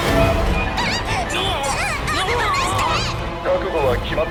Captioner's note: shrieks; wailing